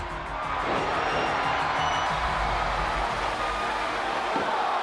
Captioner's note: audience cheering